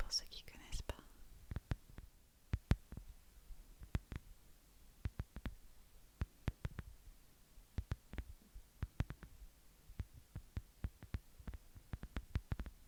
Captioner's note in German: iPhone-Hülle klopfen